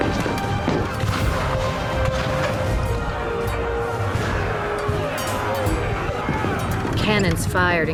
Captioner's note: cannon blasts, gunfire